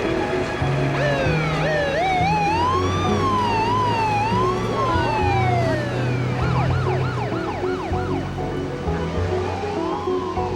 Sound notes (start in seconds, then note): 0.9 siren wailing